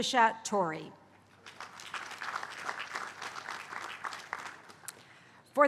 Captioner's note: applause